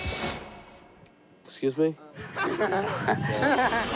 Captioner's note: laughter